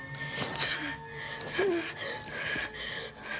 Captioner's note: panting